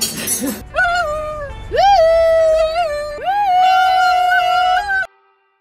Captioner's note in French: plein de WUHOO